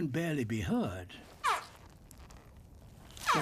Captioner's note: honks